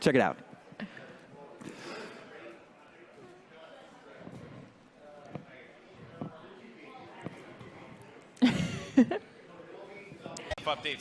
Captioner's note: awkward silence